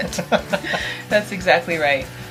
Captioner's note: laughter